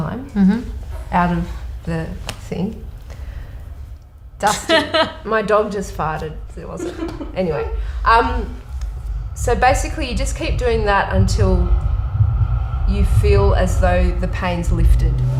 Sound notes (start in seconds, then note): 4.4 laughs